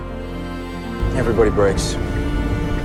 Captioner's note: voiceover